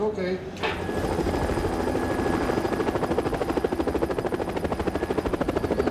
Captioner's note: helicopter blades thumping